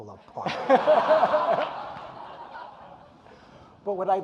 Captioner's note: audience laughing